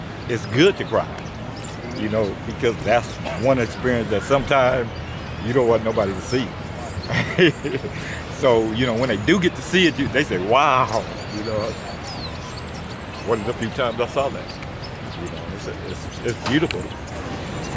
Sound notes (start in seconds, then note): 6.9 laughs